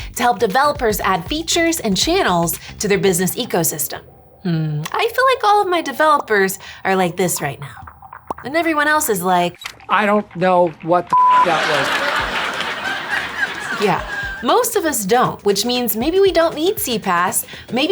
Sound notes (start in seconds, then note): 11.1 beep; 11.3 audience laughing